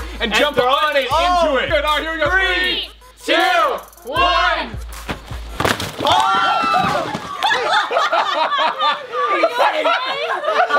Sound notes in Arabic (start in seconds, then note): 6.0 الكل يصرخ; 6.9 الجميع يضحك